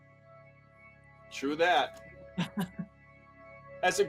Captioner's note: chuckles